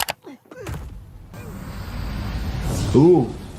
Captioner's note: mouse clicking; victim grunting; air whooshing